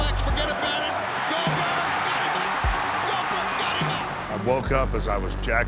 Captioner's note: applause